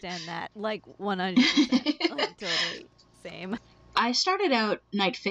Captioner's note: laughing